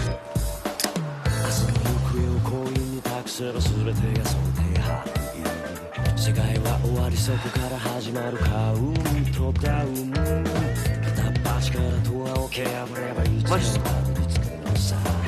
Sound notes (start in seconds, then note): 0.2 snaps soda can open; 8.2 taking footsteps